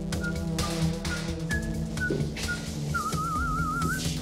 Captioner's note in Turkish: Ateş ıslık çalıyor